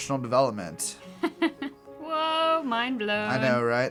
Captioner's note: laugh